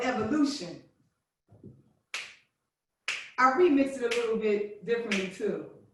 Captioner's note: snapping